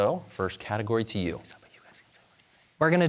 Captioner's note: team whispering